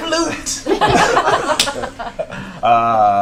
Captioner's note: laughter